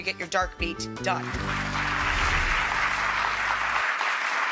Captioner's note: applause